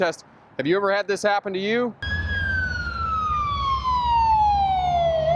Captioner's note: fire truck approaching with lights & sirens